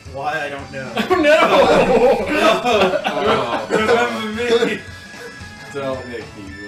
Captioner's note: laugh